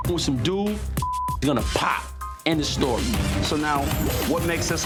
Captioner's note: beep